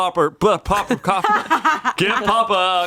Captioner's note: laughs